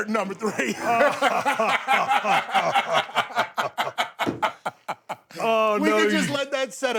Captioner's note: Stone Cold and Bubba Ray laughing